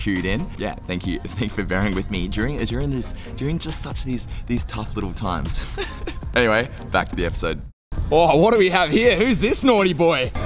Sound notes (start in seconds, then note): 5.6 laughing